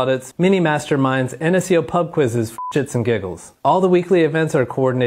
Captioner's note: beep